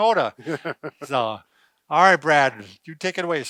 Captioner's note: laughs